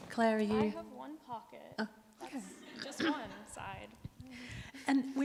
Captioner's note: audience laughs